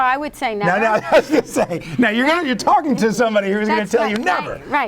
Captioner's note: laughs